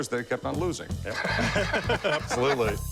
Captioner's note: laughter